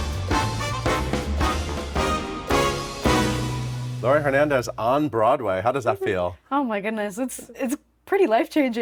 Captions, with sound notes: - Laurie Hernandez on Broadway. How does that feel? (Laurie chuckling) - Oh my goodness, it's pretty life-changing.